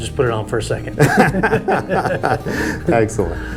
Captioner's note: both laughs